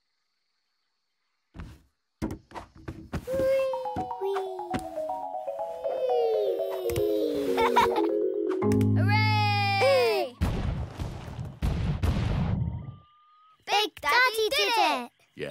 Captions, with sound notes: -Whee! -Whee! -[giggling] -Hooray! [thundering footsteps] Big Daddy did it! Yes, and there's something you can do for me.